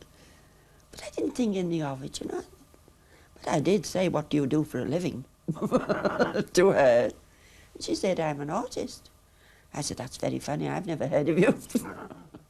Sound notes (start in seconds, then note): 5.5 chuckles